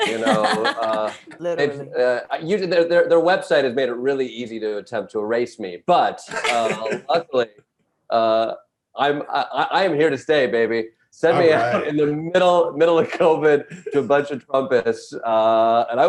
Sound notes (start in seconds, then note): 0.0 Desi laughs; 6.2 panelists laughing